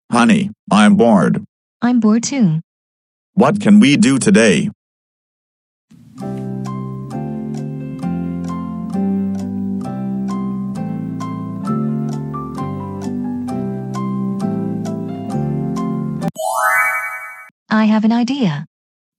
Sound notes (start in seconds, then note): 16.4 chime